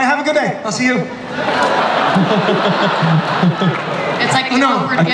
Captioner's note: audience laughs